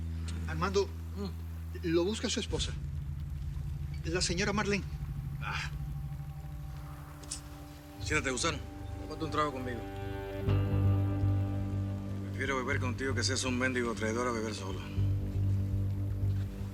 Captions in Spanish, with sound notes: - ARMANDO... LO BUSCA SU ESPOSA. ...LA SEÑORA MARLENE. - ¡AH! [Chasquido bucal] SIÉNTATE, GUSANO. TÓMATE UN TRAGO CONMIGO. PREFIERO BEBER CONTIGO, AUNQUE SEAS UN MÉNDIGO TRAIDOR, A BEBER SOLO.